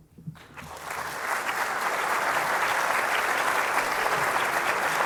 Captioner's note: applause